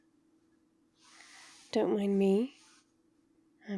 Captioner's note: comfy shuffles